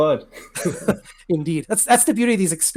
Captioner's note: chuckling